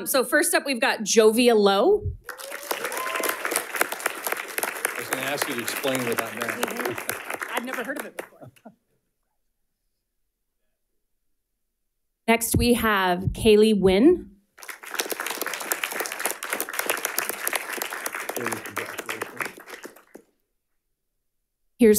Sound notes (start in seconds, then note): 14.6 audience applauding